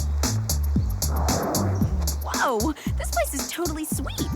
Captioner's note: bubbling; digital chirping